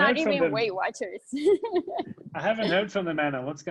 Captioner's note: laughs